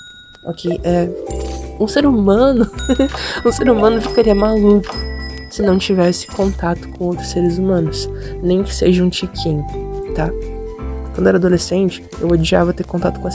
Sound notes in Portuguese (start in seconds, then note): 2.8 risos